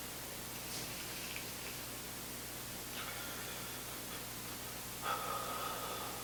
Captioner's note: exhaling; inhaling